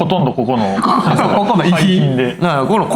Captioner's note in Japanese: 笑い